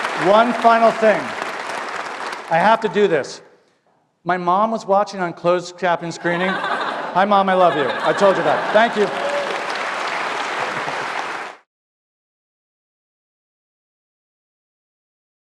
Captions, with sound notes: One final thing, I have to do this, my mom was watching on closed captioned-screening, Hi mom, I love you. I told you that. Thank you. [APPLAUSE]